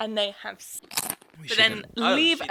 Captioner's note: object crunching